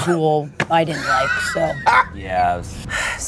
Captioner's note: laughs